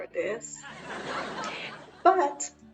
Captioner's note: crowd laughs